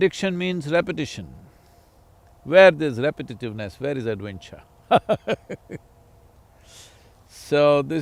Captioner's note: laughs